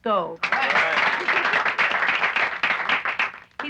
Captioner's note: applauding